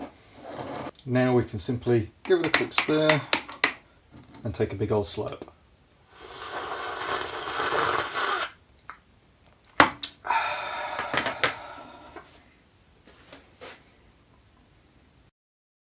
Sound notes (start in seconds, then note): 6.2 slurping noises; 10.0 satisfied noises